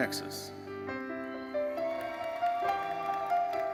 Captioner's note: audience cheering and applauding; gentle music continues